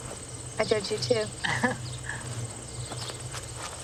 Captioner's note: chuckle